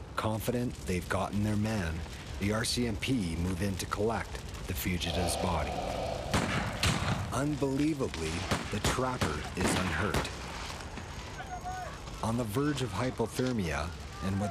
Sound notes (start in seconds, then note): 6.3 guns firing